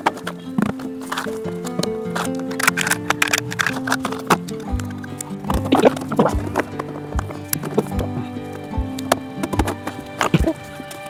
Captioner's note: sound of legs being fitted